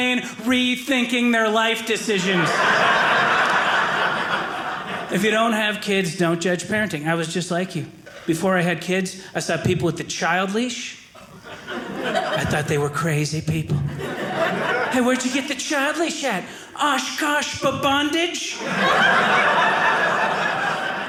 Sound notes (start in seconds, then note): 2.1 audience laughing; 18.5 audience laughing